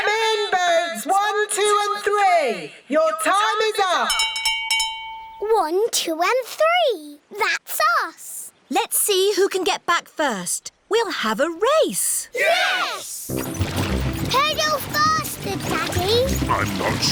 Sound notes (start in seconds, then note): 4.1 rings bell